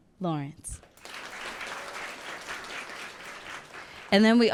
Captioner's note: audience clapping and cheering